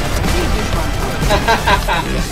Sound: laughs maniacly

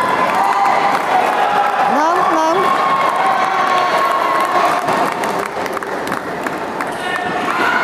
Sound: applause

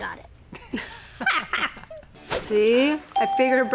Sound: parents laugh

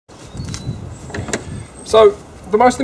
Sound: birds chirping

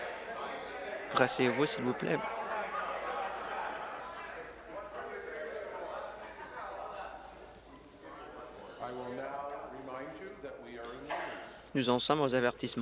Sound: conversation din

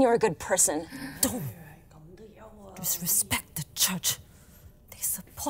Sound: church members gasp

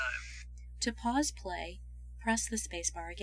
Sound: voiceover - female speaker

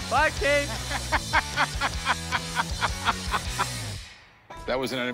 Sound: laughs

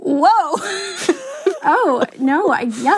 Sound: both crack up

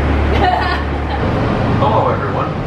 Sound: laughing

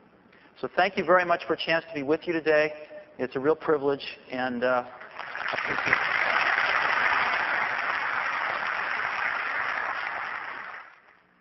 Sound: applause

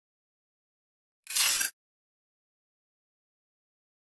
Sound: sound of tape

